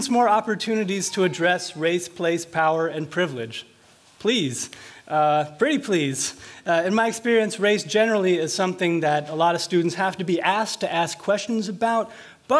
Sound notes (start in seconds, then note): none